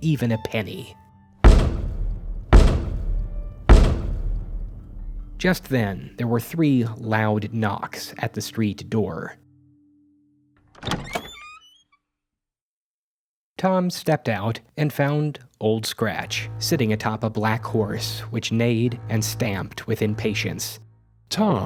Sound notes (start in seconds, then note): 1.4 knock knock knock; 10.8 door opens